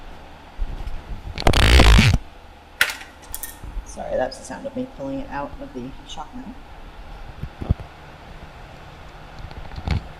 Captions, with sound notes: [sound of removing mic from shock mount] Sorry, that was the sound of me pulling it out of the shock mount.